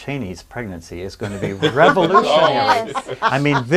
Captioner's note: laughing